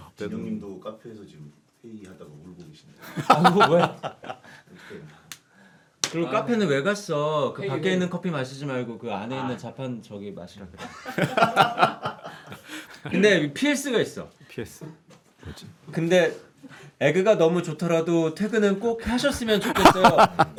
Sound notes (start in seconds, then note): 3.0 laughing; 12.3 wiping tears